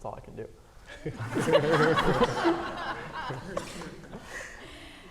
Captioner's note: audience laughing